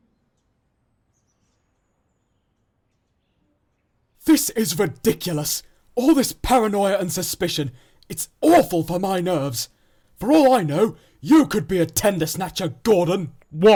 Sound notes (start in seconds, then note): none